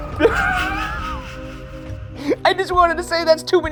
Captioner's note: laughs